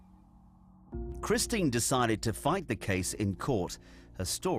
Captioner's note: voiceover